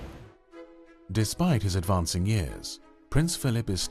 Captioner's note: voiceover